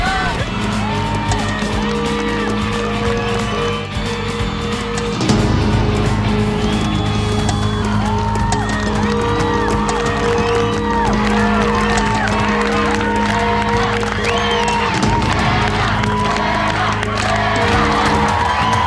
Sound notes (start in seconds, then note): 0.6 fans on shore applauding and cheering; 13.5 crowd on shore chanting; 18.6 fans on shore applauding and cheering